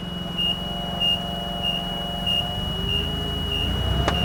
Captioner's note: fork truck beeping